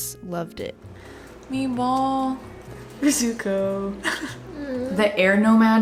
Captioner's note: laughs; groans